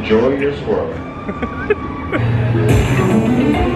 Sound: giggling; upbeat music

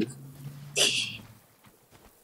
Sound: tee-heeing

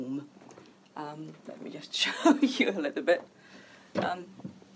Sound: laughs

